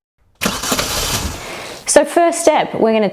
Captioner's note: engine revving